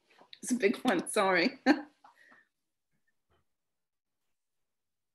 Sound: chuckles

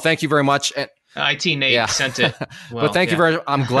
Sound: chuckles

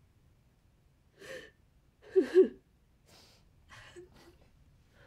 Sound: soft crying continues

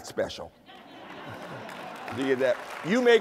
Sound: laughter

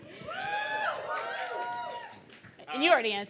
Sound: audience cheering

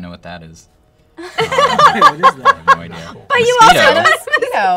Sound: laughter

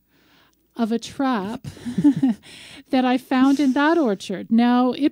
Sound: laughs

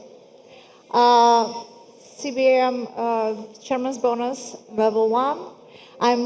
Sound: none

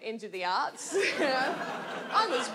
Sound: audience laughs

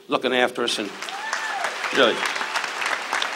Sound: audience cheers

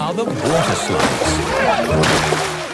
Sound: laughing

